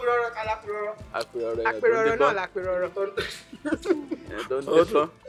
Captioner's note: host laughs